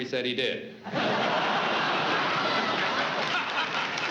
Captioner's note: laughter; applause